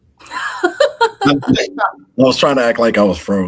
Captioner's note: laughing